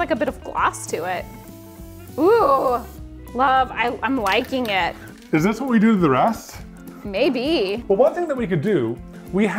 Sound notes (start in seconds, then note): 0.8 spray can hisses